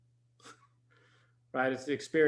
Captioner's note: chuckles